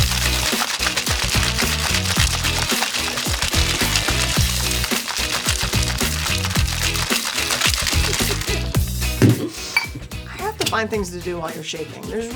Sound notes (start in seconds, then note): 7.4 laughs